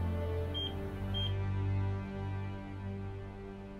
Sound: phone beeping

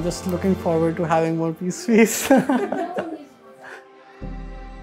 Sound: laughs

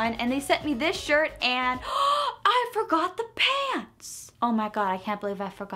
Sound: gasps

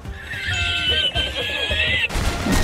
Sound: amused spanish wheezing laughter

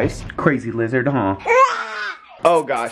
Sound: yells

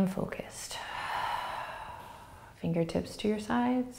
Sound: exhaling

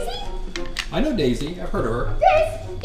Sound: voiceover

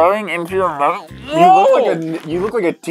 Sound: agony sounds

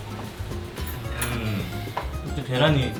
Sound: hmm

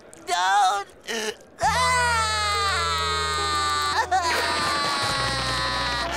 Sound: crying

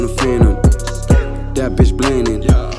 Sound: skkrrt

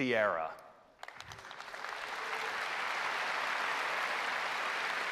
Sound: applause

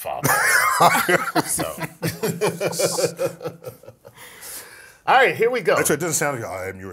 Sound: laugh

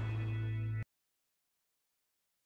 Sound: awkward silence

